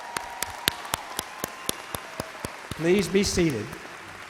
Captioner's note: audience cheers and applauds